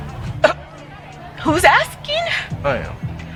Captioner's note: laughing